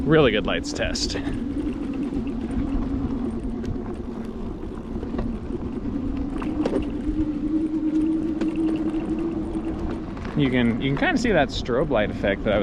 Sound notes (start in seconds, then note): 4.3 electric motor whirs